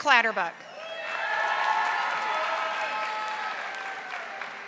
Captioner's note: audience applauding